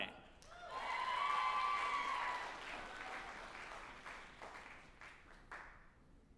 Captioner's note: group applauding and cheering